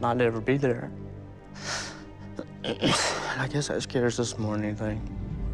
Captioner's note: clears throat